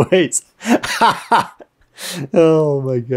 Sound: speaker laughing

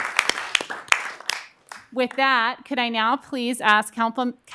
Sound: cheering and applause

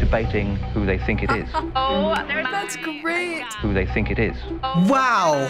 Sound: laughs

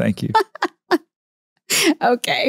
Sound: Candace laughs

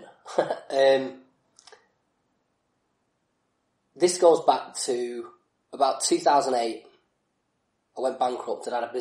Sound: laughs

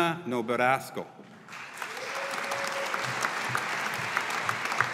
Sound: audience applauding

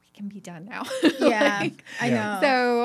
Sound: laughing

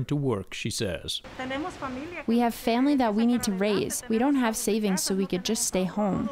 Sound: through translator

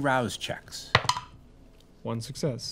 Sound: dice rolling

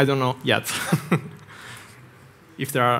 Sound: laughs

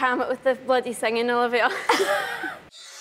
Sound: laughing

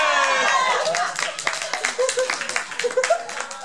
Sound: jeering

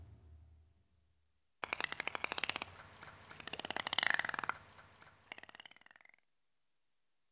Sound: dolphin clicking

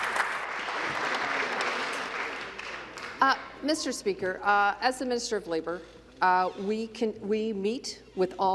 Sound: applause

